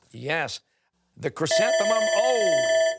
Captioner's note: timer